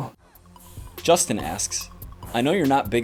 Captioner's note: voiceover